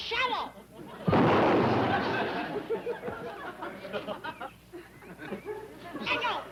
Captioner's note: gunshot